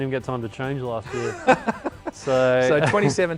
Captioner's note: laughs